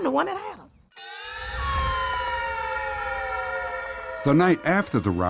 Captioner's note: siren